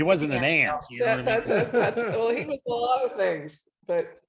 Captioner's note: laughing